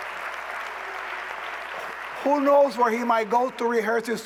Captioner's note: cheers and applause